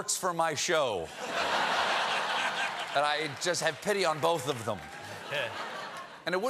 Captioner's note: laughter